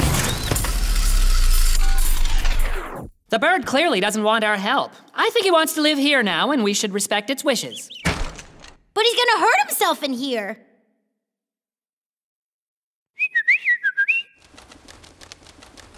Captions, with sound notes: (engine powering down) The bird clearly doesn't want our help. I think he wants to live here now and we should respect its wishes. (thud) - But he's gonna hurt himself in here. (Mimi whistles)